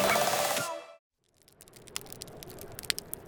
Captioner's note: crackling of flames